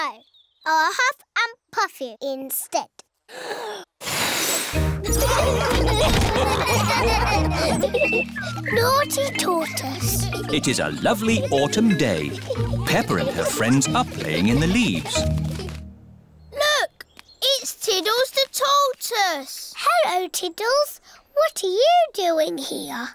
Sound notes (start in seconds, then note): 4.0 blows; 5.0 laughter